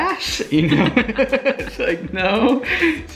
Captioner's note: both laughing